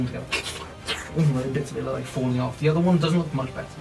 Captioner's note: squelching noises